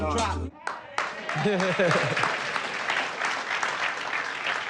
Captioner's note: audience applauding